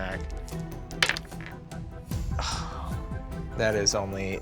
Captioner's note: rolls dice